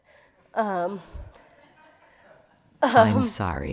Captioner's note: laughter